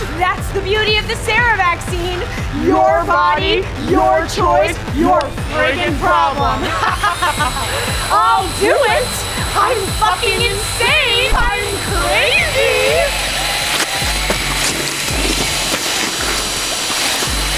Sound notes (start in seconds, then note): 6.6 laughter; 12.9 machine whirring